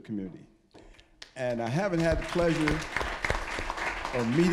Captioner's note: applause